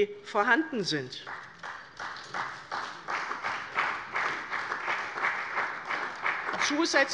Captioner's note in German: Beifall bei der CDU und dem BÜNDNIS 90/DIE GRÜNEN